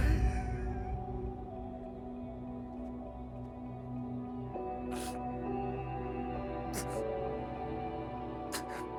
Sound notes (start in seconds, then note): 0.0 dramatic music; 0.9 Nathan crying